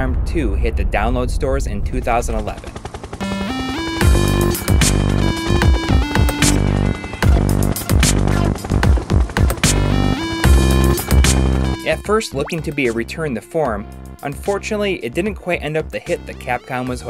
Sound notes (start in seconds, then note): 3.9 game AUDIO